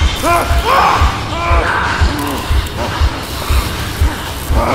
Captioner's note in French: James crie